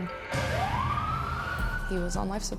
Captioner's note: siren wailing